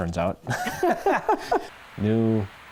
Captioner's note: laughter